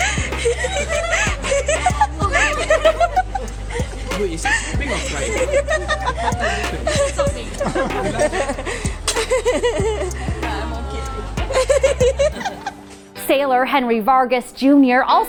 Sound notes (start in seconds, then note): 1.4 laughs